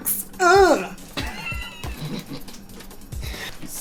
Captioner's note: laughs